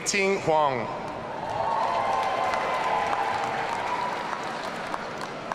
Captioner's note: audience cheering